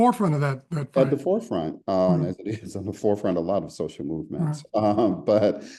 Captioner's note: laugh